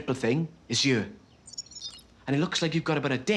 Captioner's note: electronic pulses